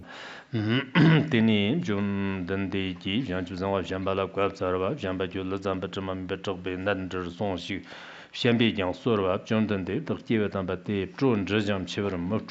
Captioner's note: giving oral transmission in Tibetan